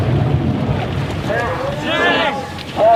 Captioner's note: men grunting